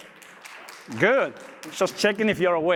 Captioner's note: audience applauds